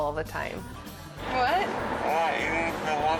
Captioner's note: audience laughing